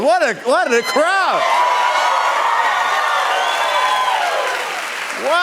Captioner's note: cheers and applause